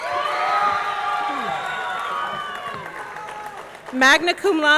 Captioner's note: audience cheering; audience clapping